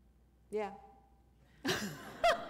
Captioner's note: laughter